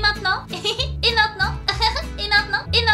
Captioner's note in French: Rires